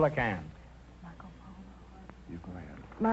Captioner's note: whispering